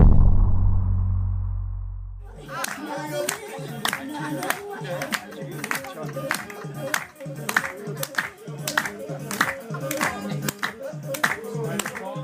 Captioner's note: chanting